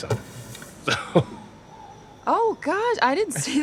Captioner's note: chuckles